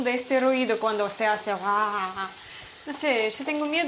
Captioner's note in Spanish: ruidos de aceite